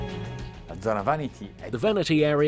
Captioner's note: speaking in foreign language